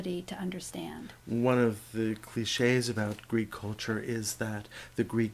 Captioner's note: voiceover